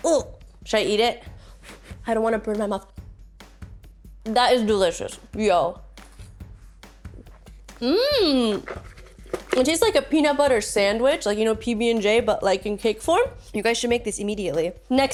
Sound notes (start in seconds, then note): 7.9 exclaims loudly